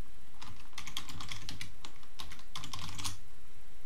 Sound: keyboard clicking

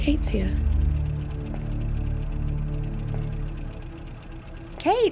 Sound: car engine puttering

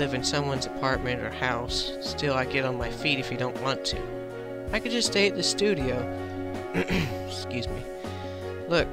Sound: clears throat

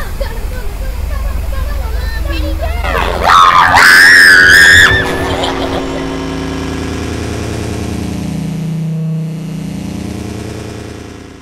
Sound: garbled screaming and noises

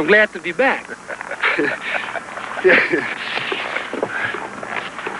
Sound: laughter

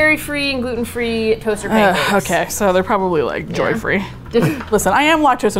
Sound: sigh; laughs

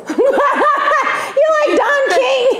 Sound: laughter

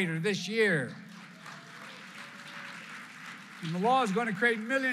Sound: applause

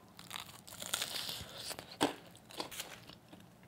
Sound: crunchy sound

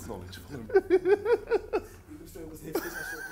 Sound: laughs

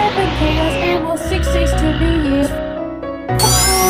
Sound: Terence growling

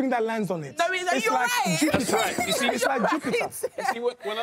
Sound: laughs

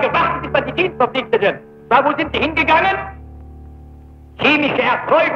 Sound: German spoken audio

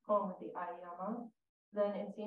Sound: speaks in Japanese

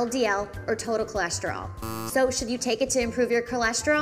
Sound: buzzer buzzing

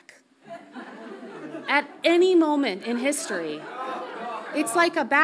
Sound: audience laughs softly

